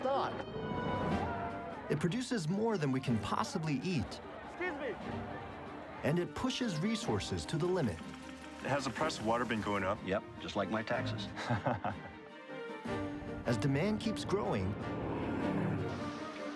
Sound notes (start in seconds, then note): 11.3 chuckles